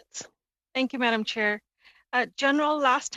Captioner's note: speaking in french